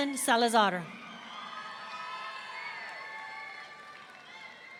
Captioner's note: audience cheering